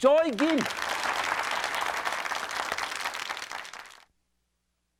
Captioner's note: audience claps